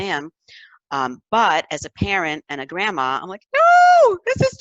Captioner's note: high-pitched voice